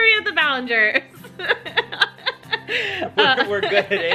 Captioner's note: laughs